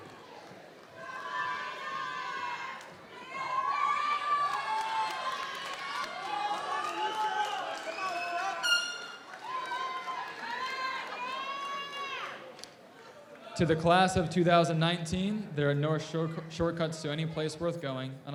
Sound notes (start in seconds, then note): 3.1 audience members shouting